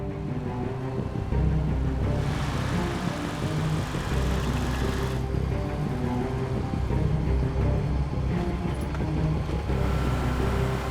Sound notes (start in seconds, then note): 0.2 suspenseful music; 1.0 engines rev